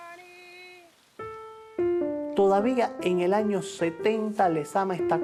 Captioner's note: speaking Spanish